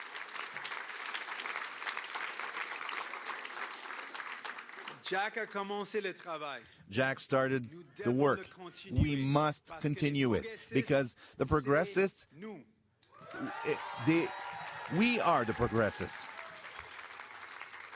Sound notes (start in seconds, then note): 0.0 speaking in French; 1.6 cheering and Applause